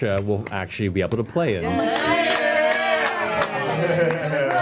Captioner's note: cheering